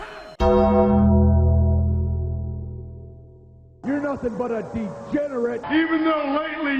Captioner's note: Undertaker bell